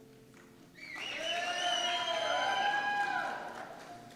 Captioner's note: cheers